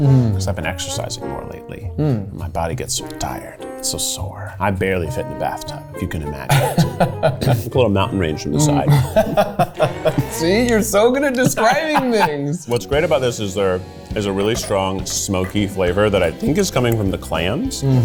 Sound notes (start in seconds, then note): 6.4 laughing; 9.1 laughing